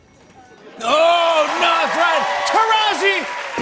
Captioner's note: cheers and applause